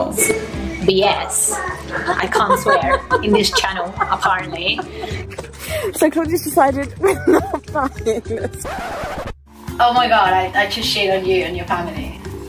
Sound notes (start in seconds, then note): 1.5 laughs; 8.4 record scratching SFX